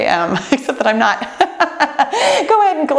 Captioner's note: laughing